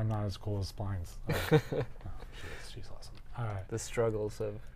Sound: chuckles

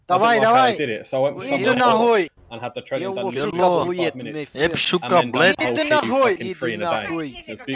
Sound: speaking Russian; swearing in Russian

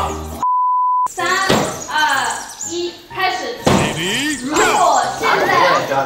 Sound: timer starts

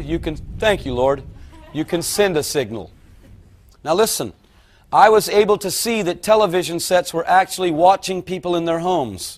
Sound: thunder

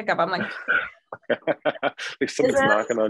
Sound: laughing

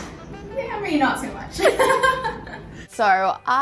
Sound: laughs

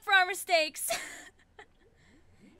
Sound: laughs

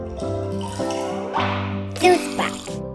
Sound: gentle music; liquid sloshing

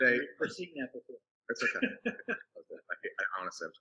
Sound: chuckling

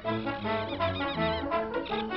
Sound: laughs

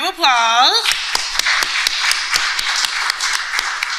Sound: applause

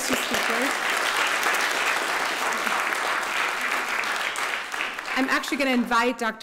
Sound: applause

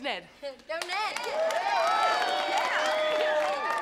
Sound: cheering

